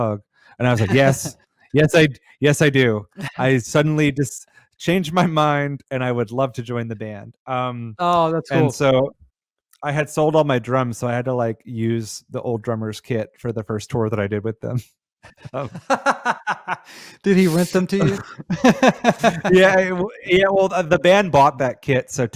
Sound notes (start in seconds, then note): 16.5 laughs